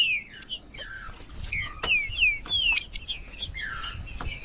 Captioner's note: trinca ferro cantando